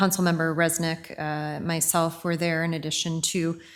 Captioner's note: none